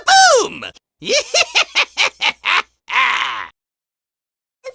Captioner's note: deranged laughter